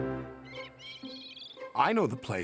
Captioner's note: bird chirping